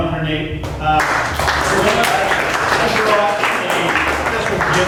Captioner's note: applause